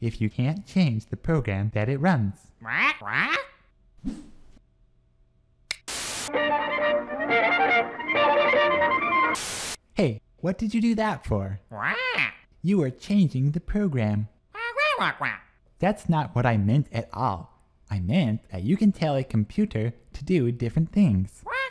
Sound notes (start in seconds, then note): 2.6 squawks; 6.2 violin playing; 11.8 squawks; 14.6 squawks; 21.5 squawks